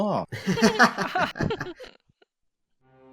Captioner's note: laughter